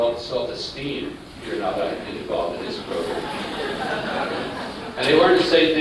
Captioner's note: laughter